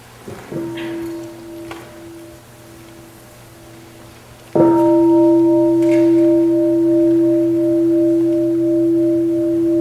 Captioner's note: sound of the bell